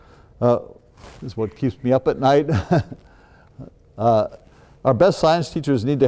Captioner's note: laughs